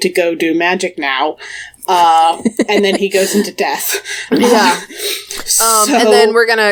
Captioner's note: laughs